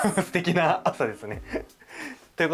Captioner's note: laughs